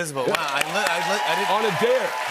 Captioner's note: cheers and applause